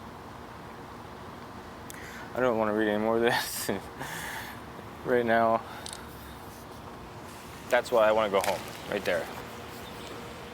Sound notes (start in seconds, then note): 4.7 laughs; 6.0 phone clicks off